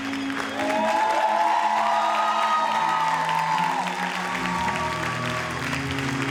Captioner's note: audience cheers and applauds